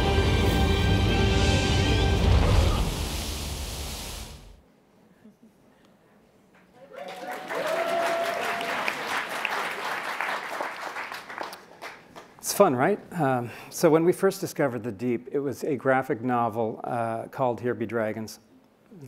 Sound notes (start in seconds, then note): 3.2 water splashing; 6.7 applauding and cheering